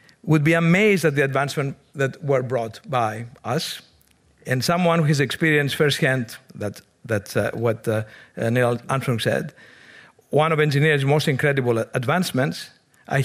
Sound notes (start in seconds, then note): none